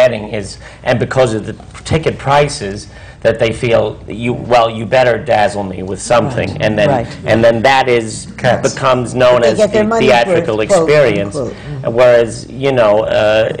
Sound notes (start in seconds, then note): none